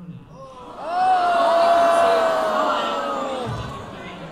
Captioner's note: audience oooooohs